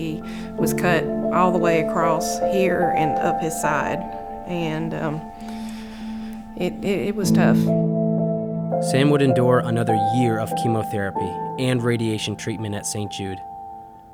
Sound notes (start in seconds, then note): 8.9 voiceover